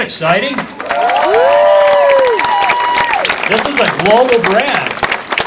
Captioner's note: cheers